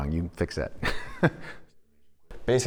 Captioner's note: laughs